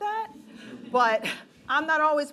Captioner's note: laughing